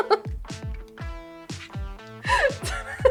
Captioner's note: laughs